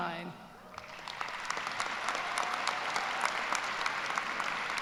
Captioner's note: applause